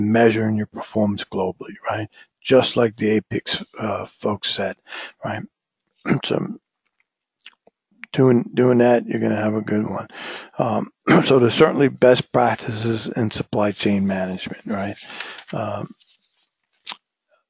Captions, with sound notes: measuring your performance globally, right. Just like the APICS folks said, right. [COUGH] So doing that you're going to have a good one. So there's certainly best practices in supply chain management, right.